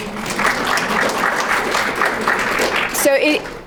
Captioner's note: crowd clapping